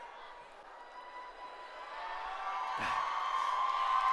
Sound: cheering

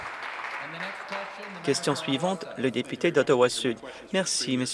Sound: some Applause

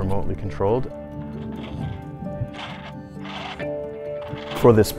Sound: motor turning

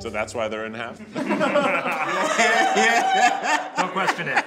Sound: group laughs

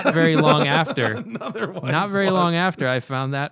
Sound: laughter

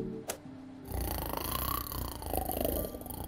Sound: snoring

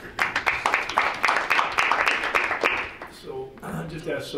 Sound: board members clapping

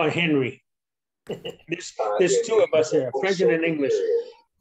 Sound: laughs

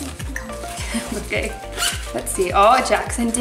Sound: laughs

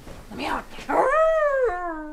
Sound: Changeling howls

